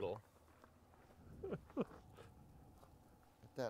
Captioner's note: chuckles